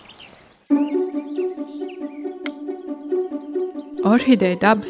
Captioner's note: clapper